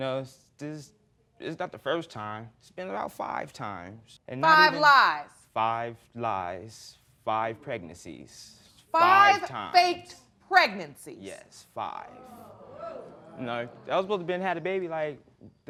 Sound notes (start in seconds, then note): 12.1 audience exclaiming